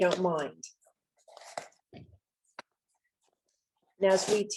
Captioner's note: unboxing sound